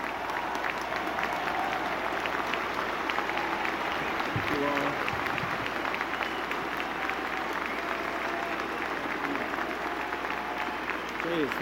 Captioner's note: applause